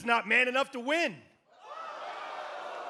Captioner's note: crowd response